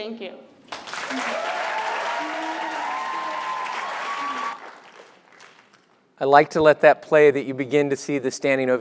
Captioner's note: applause